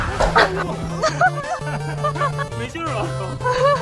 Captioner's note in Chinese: 爆笑